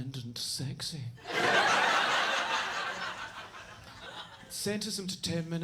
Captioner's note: audience laughs